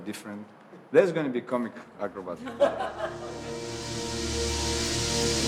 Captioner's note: all laughing